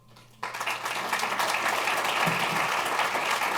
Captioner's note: applause